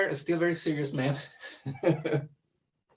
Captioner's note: laughs